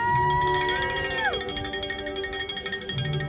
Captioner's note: cowbell ringing